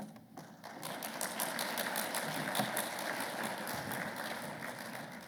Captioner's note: audience applauding